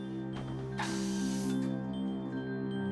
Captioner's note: soft music playing; air hissing